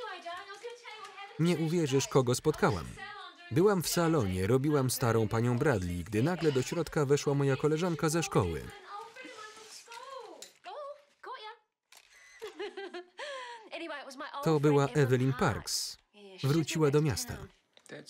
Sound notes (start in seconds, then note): 12.4 laugh loudly